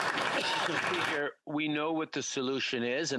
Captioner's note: applause